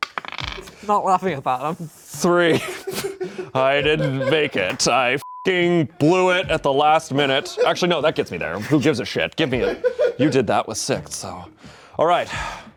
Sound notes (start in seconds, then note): 5.2 beep; 12.2 sighs